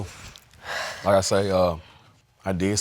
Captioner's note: exhales